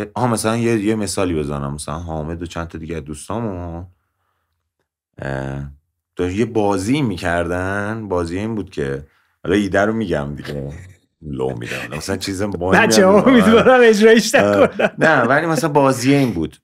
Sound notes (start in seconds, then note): 12.8 laughter